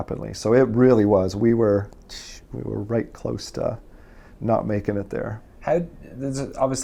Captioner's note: hisses